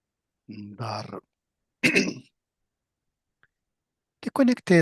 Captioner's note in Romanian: voce dreasă